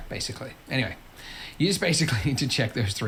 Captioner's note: laughs